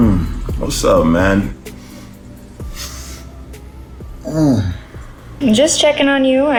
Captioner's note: grunts